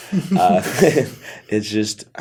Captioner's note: laughter